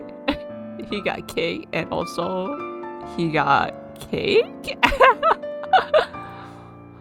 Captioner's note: laughs